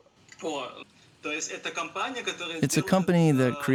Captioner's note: speaking Russian